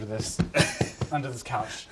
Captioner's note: laughs